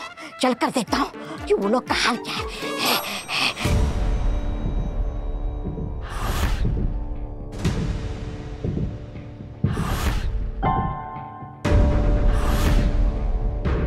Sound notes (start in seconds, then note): 2.2 panting; 11.5 eerie music